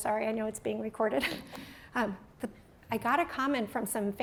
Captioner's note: laughter